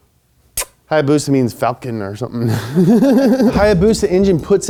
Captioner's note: laughs